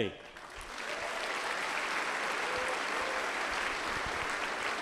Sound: applause

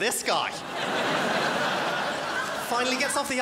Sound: crowd laughs

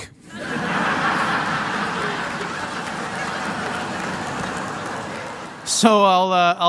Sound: laughter

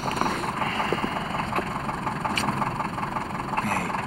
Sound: sighs

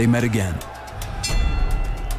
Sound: bell dings

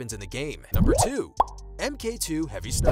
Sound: bubble popping; whooshing

